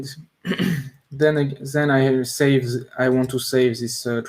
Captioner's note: clears throat